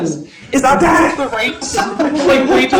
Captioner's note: laughter